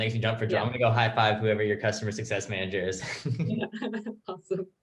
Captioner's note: chuckles